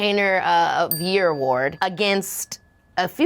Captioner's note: bell dings